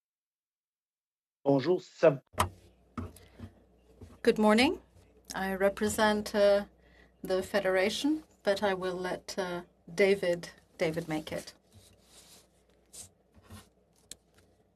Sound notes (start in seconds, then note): 6.3 speaking French